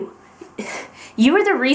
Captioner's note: sigh